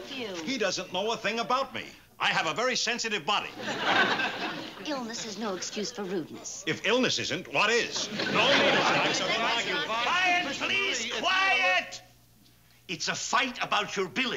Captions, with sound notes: He doesn't know a thing about me. I have a very sensitive body. Illness is no excuse for rudeness. If illness isn't, what is? (everybody argues and shouts) Quiet, please! Quiet! It's a fight about your billing.